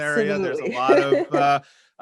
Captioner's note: laughs